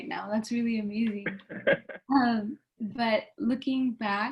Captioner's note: laughing